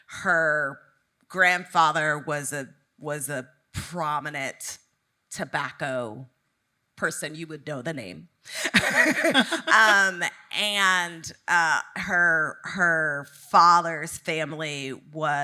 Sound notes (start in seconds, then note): 8.6 both laughing